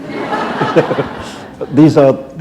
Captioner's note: laughter